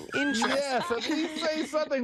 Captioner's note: laughter